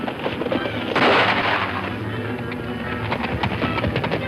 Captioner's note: gun fires; hooves clopping